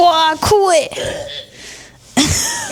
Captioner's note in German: gelächter